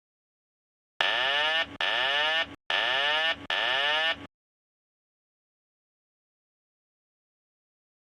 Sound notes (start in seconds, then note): 1.2 alarm sirens sounding